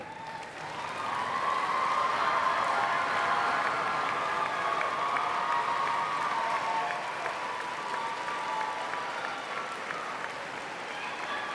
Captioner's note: applause